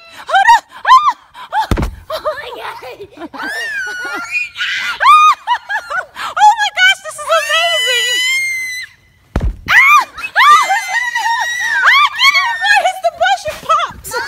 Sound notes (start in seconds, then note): 1.6 balloon thuds; 3.3 screaming; 7.5 shrieking; 9.3 balloon thuds